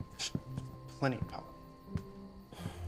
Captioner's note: scoffs